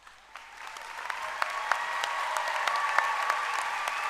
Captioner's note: applause